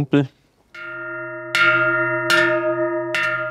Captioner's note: deep bell sounds